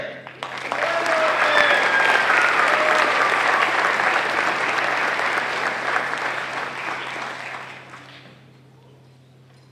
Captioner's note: applause